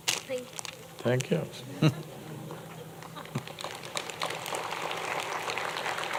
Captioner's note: applause